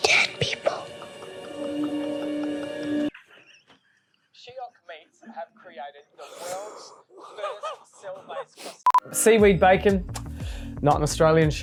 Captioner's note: laughter